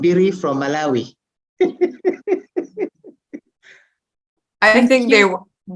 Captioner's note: non-english; laughs